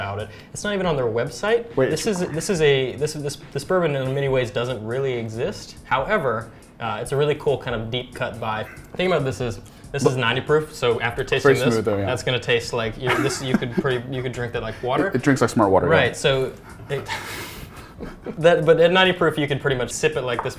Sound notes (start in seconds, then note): 16.4 laughs; 16.6 both Laugh